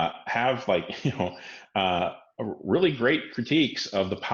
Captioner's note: laughs